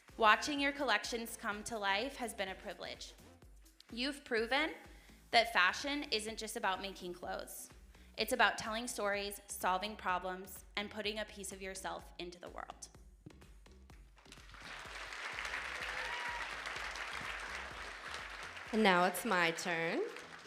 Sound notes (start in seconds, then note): 14.1 audience applauding